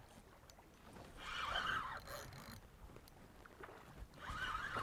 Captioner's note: drag screams